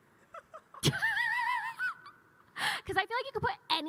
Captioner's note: laugh